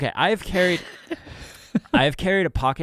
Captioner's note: laughing